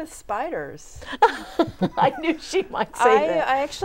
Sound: laughing

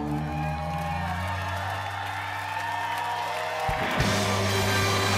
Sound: audience cheering

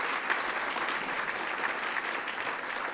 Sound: applause

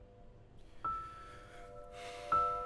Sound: sighs

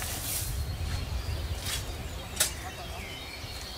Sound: birds chirping

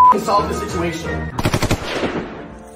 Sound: gunshots

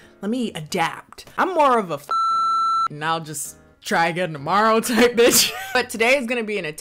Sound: beep

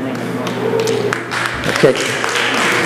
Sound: clapping

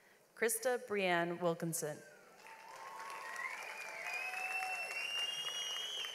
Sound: audience applauds

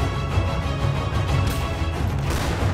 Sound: gun fires

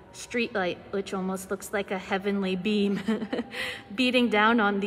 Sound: chuckles

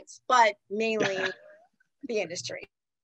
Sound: laughs

